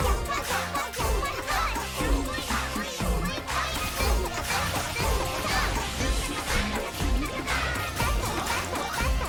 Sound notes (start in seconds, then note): 2.1 rhythmic explosions